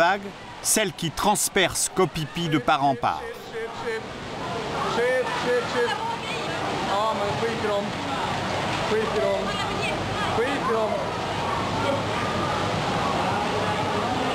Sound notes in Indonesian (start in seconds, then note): 8.3 suara gelombang air